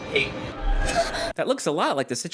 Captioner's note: Emilia gasps